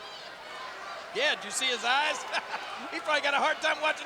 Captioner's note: laughs